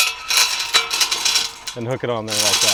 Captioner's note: chain clanking